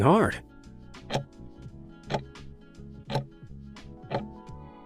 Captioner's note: timer ticking